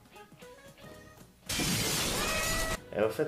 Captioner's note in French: bruit de casse et miaulement de chat qui se prend la boite